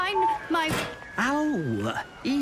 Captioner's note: whistling; thud